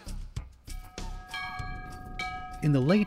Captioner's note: school bell